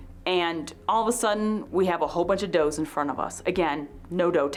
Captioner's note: none